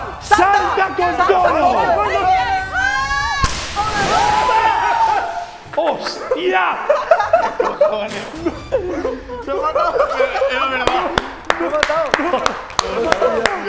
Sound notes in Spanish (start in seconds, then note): 2.8 gritan; 12.7 aplaude